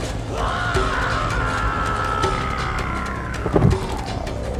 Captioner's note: man screaming